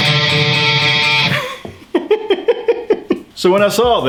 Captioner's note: laughs